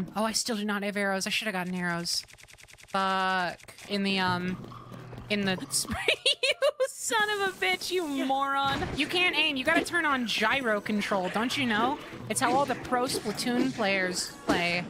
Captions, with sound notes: Oh, I still do not have arrows. I should have gotten arrows... Fuuuck. In the um... In the- [Laughter] You son of a bitch! You moron. You can't aim, you gotta turn on gyro control, don’t you know? It’s how all the pro Splatoon players play.